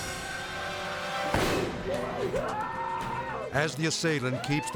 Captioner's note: gunfire blasts